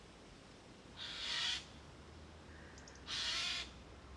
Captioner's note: bird crows